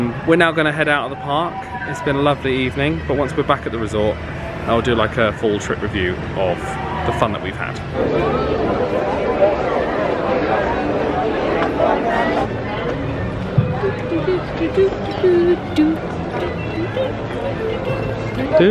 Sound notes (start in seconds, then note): 8.0 lively background chatter; 13.8 hums lighthearted tune